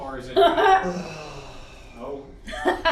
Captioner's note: laughs